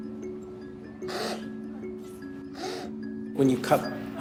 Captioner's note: slurping